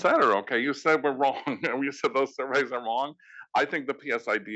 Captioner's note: laugh